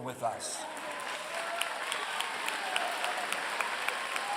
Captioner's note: applause